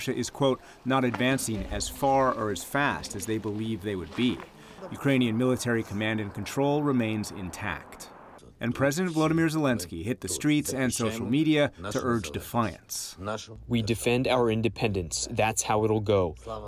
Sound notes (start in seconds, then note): 13.9 through translator